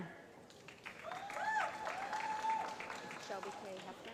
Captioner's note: applause